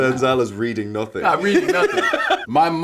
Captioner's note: Paul laughing